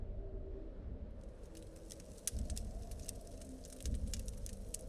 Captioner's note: fire crackling